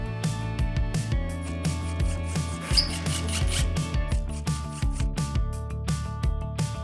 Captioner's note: gentle upbeat music; drill whirring